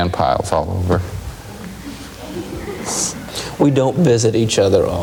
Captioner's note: audience laughing